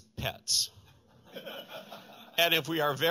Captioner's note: laughter